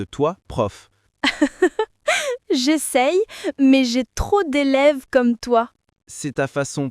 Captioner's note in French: rire